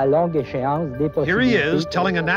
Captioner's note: speaking French